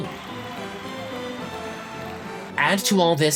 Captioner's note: crowd cheering on TV